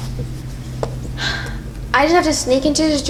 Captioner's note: sighs